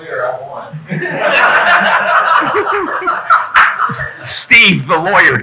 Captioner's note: audience laughing